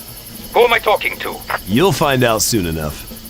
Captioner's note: radio